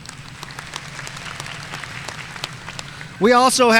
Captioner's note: audience applauding